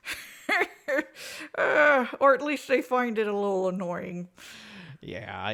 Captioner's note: laughs